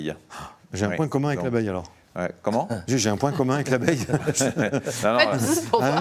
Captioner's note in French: rires